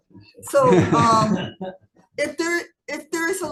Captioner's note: people laughing